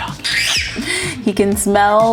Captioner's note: baby squeals